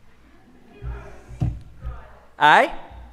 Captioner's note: audience laughs